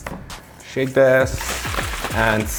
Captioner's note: bottle shaking